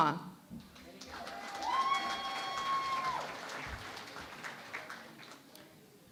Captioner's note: cheering and Applause